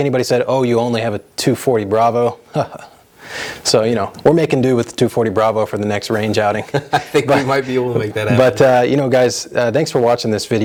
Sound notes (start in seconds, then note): 2.5 chuckles; 6.1 laughs